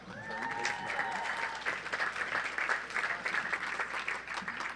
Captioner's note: audience applauds